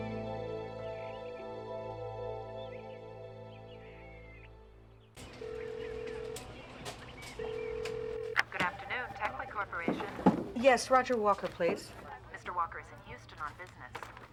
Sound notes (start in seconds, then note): 5.3 phone ringing